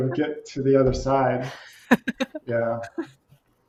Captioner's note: laughs